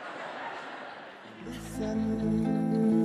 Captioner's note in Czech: Smích